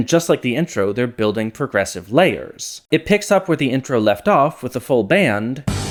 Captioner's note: bang